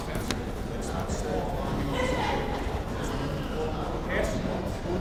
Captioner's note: crowd murmuring